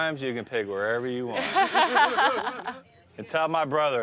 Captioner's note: laughing